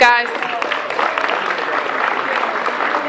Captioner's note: applause